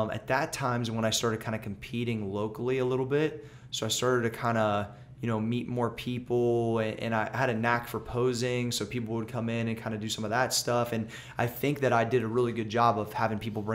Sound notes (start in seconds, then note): none